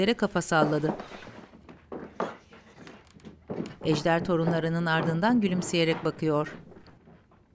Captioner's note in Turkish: Ayak sesi